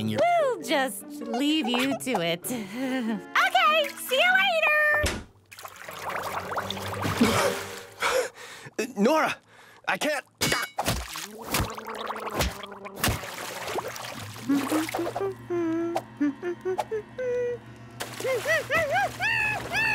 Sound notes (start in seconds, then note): 14.9 humming cheerfully